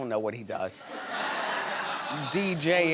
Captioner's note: audience laughs